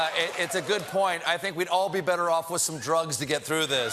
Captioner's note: cheers and applause